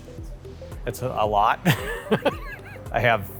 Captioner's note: laughs